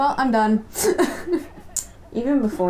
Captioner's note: laughter